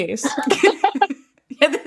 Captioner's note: laughing